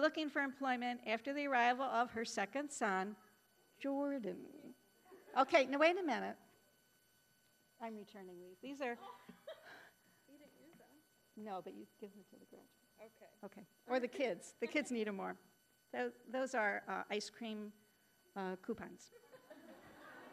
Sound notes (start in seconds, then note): 5.3 audience chuckling; 9.0 laughing; 19.2 audience laughing